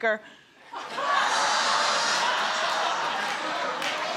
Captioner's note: audience laughs